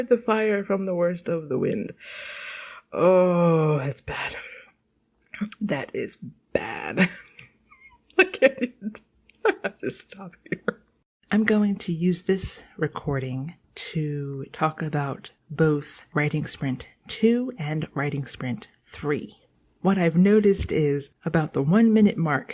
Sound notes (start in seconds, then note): 7.7 laughter